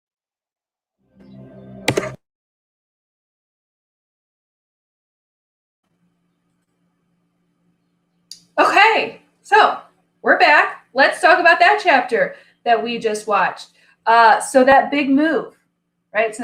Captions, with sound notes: (mouse clicks) - Okay! So, we're back! Let's talk about that chapter that we just watched. So that big move, right?